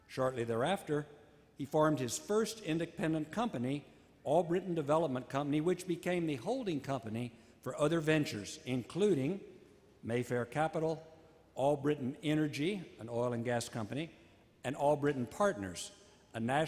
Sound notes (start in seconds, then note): none